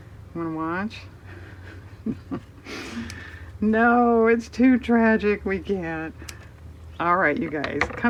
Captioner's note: laughs